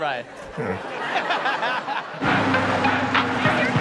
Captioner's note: audience laughs; dog grunts; dance music